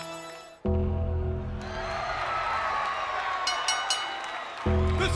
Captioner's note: crowd cheers; gong rings; bell rings